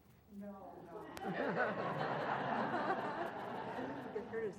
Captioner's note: laugh